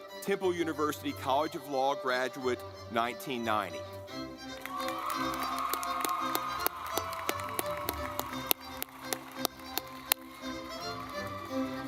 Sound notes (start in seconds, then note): 4.2 lively music; 4.4 audience clapping